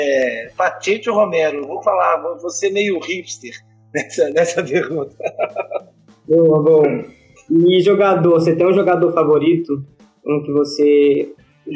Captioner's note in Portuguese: risos